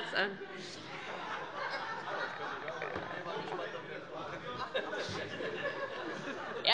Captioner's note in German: Heiterkeit